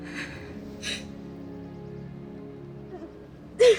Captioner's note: crying